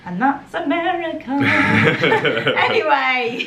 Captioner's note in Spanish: laughing